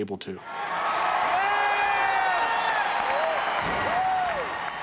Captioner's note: audience cheering